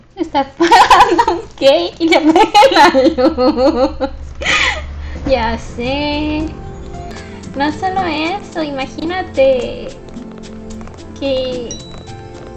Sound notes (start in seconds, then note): 4.0 laughs